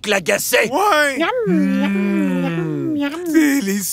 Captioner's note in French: Miam miam